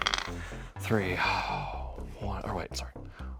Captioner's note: sighs